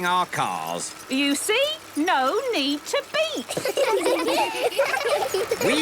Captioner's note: laughter